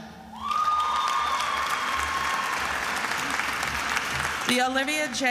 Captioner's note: attendees applauding and cheering